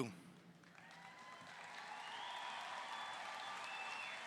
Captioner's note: audience cheering